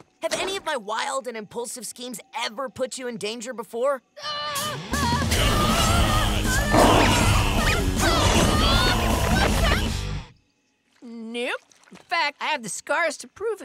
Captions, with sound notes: Have any of my wild and impulsive schemes ever put you in danger before? [screaming] Nope. In fact, I have the scars to prove it.